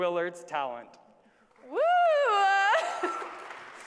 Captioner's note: applause